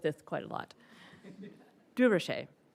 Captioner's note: attendees laughing